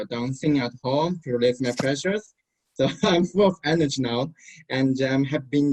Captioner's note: laughs